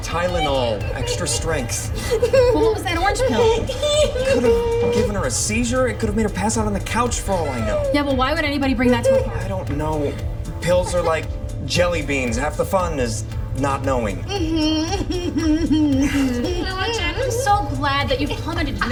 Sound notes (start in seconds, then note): 14.0 laughs